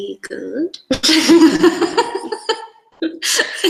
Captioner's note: both laugh